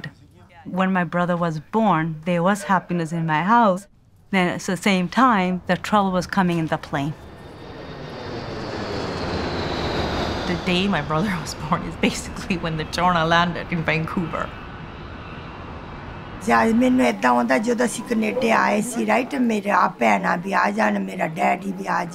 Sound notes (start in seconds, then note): 17.0 Mother speaking Punjabi